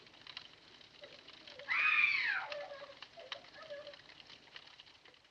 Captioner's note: screaming, sobbing continues